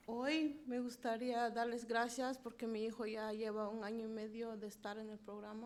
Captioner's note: speaking in foreign language